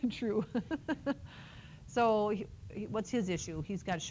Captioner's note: laughs